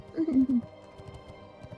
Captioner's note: giggling